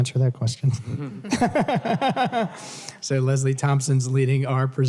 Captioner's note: laughter